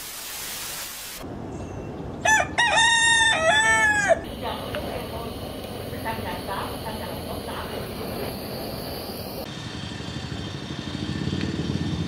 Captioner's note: rooster crowing